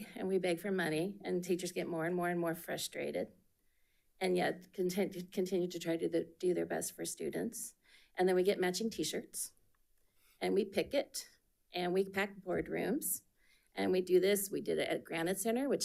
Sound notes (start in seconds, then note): none